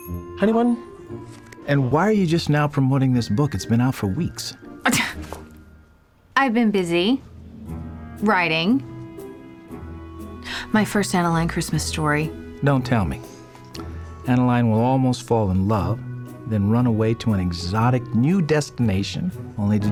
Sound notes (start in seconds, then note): 4.8 scoffs